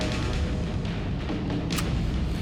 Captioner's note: gun clicks